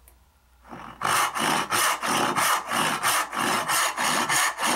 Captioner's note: saw scrapes